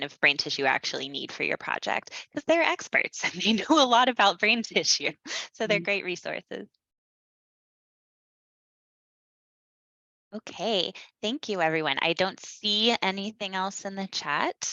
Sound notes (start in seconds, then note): 5.6 laughs